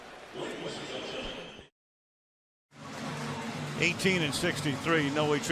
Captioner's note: pa announcement